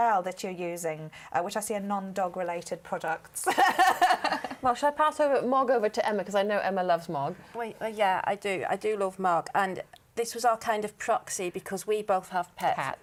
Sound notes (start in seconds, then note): 3.4 laughter